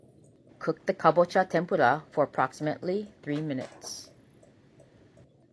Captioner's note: robot voice